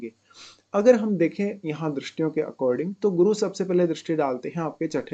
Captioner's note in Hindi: नाक से की जाने वाली आवाज़